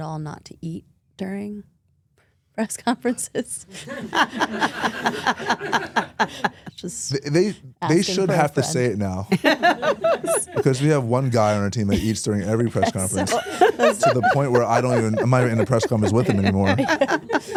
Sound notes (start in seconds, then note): 3.8 both laugh